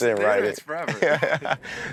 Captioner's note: laughing